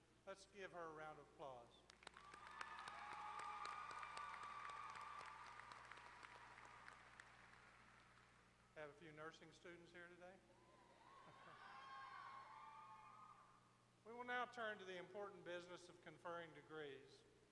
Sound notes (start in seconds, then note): 1.8 applause; 11.1 laughter